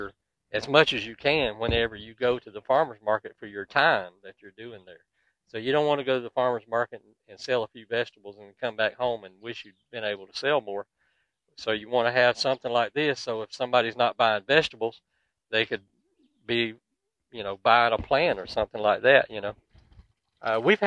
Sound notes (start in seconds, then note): 9.9 birds twittering